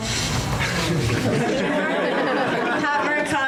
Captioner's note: audience laughs